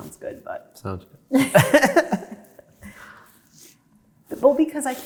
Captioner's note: both chuckling